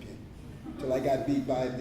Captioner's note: laughter